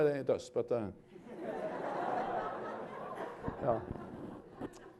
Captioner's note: laughter